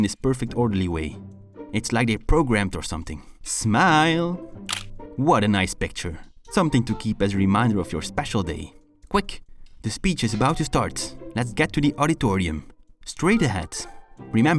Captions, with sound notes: perfect orderly way, it’s like they’re programmed or something! Smiiillee, *click* what a Nice picture, something to keep as a reminder of your special day. Quick, the speech is about to start, let’s get to the auditorium, straight ahead!